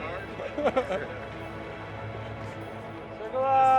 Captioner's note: crew member laughing